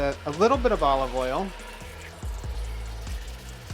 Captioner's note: oil sizzling; light music continues